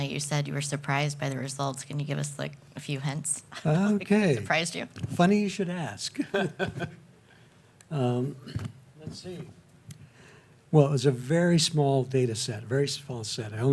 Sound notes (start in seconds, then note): 6.1 chuckles